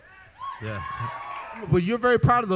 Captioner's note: applause